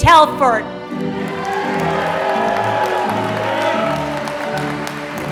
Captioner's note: applause